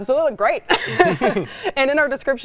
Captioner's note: both laugh